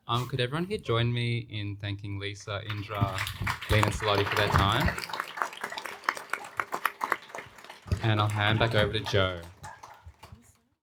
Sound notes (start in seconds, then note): 4.5 applause